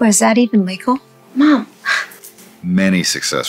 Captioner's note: scoffs